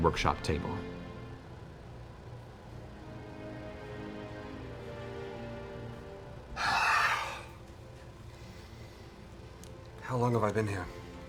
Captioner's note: sighs